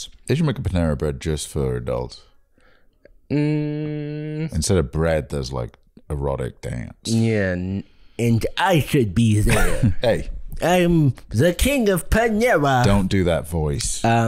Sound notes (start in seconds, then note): 8.2 nerd voice